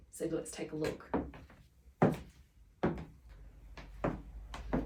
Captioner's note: footsteps thud